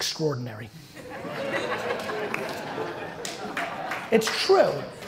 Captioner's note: audience laughter